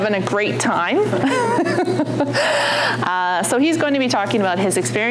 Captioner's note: laughing